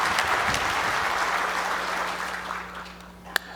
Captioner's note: applause